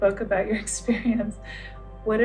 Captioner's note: laughs